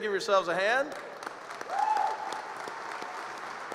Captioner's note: applause